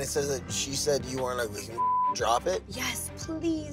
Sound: beep

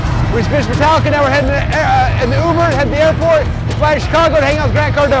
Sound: cars engines idling

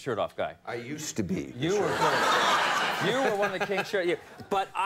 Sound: audience laughing

